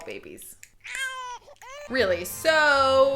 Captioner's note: baby crying